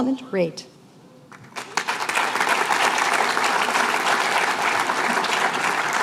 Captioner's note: applause